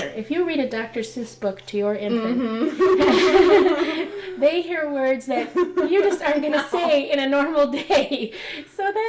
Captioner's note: laughter